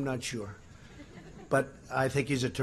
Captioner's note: laughter